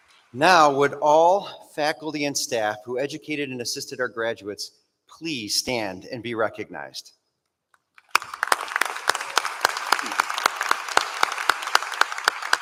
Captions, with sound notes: Now would all faculty and staff who educated and assisted our graduates please stand and be recognized? [APPLAUSE]